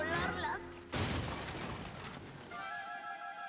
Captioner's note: crash